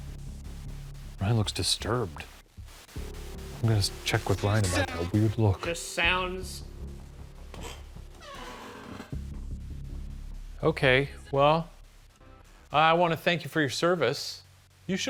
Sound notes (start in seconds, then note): 6.6 white noise; 8.0 chair creaks; 8.4 suspenseful music